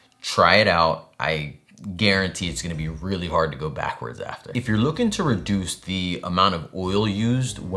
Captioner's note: none